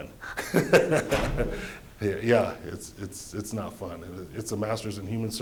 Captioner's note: laughter